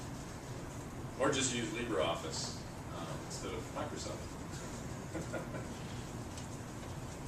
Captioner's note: laugh